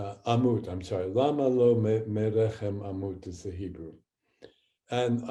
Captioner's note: speaking hebrew